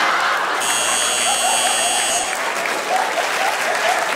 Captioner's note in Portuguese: campainha